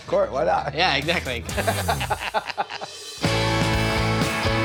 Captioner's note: laughter